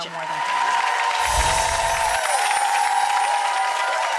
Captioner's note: audience applauding